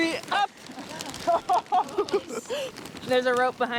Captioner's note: trainees laughing